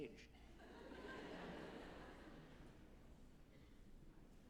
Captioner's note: group chuckling